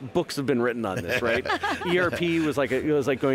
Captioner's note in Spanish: los anfitriones se ríen